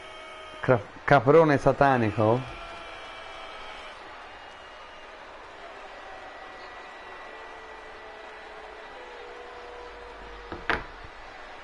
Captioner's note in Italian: Applauso